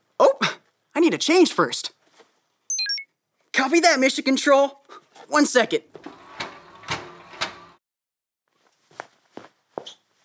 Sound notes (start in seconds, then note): 2.7 radio beeps